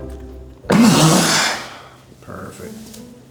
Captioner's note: exhales